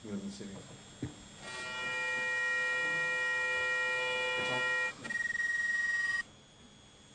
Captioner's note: microphone feedback